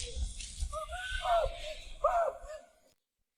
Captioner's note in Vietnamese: la hét